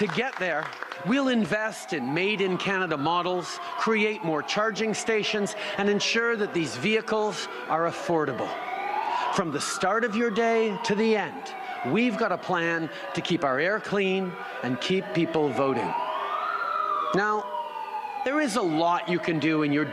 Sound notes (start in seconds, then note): 0.0 applause; 1.8 siren